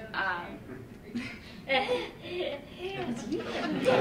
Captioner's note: laughter